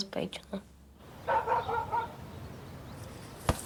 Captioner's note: dog barking